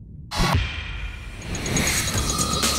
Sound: uptempo techno music; ticking; whirring

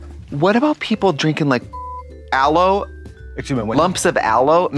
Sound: beep

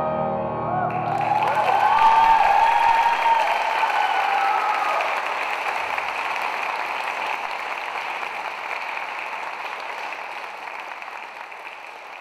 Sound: crowd cheering and clapping

